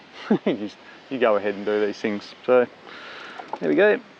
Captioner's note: laughing